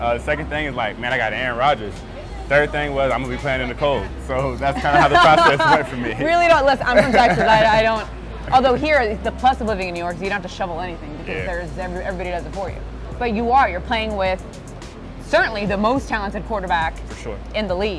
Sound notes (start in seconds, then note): 6.6 laughing